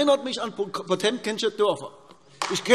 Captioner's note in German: Beifall AfD